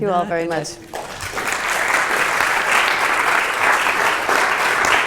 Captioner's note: audience applauds